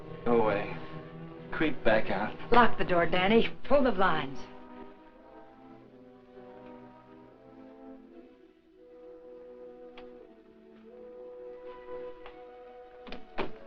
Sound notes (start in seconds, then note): none